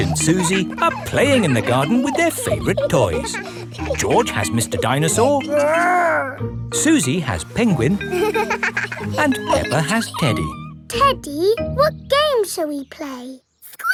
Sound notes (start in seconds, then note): 7.2 giggles